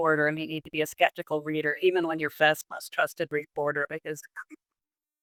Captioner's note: laughs